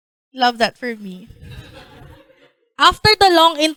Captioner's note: laughter